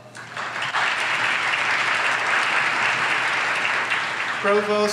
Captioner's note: audience applauds